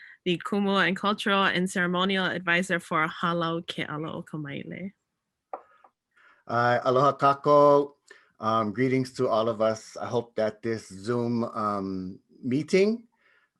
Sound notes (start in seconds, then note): 2.9 speaks in native language; 6.3 speaks in native language